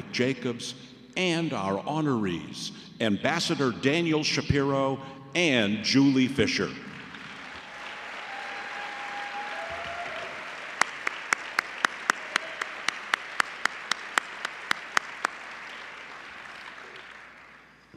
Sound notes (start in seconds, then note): 7.8 applause